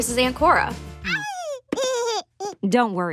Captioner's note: baby laughs